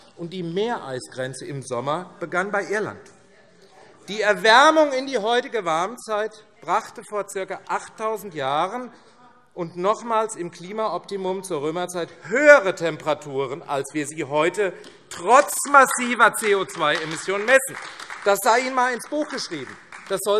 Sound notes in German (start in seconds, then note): 16.9 Beifall AfD